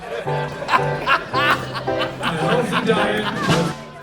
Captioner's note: laughter